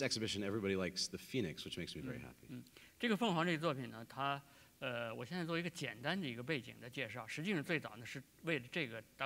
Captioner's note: speaking in Chinese